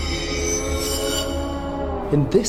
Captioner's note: screeching; groaning